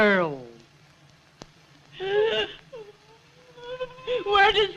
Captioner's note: sobs